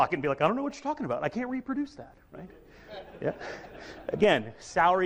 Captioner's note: audience laughs